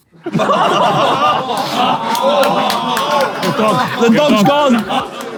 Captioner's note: people in room laughing and exclaiming